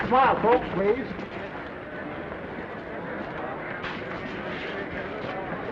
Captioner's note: attendees chattering